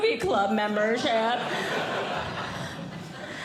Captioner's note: audience Laughing